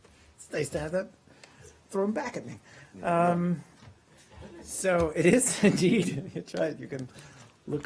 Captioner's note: laughter